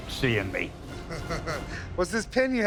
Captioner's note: laughs